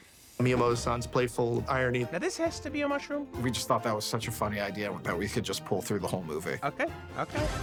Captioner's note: none